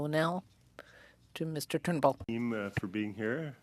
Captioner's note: speaking French